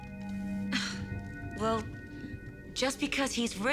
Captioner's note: scoffs